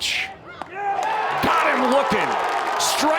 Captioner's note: fans cheer